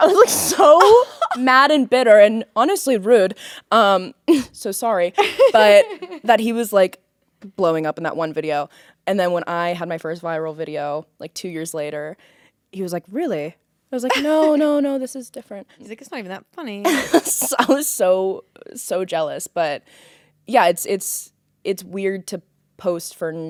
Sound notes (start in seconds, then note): 5.2 Courtney laughing